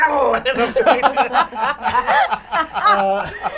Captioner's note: all laugh